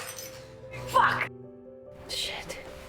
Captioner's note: shouting